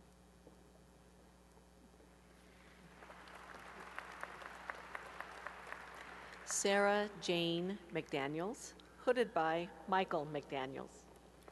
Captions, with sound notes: [applause] Sarah Jane McDaniels, hooded by Michael McDaniels.